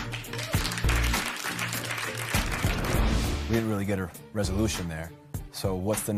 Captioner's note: light applause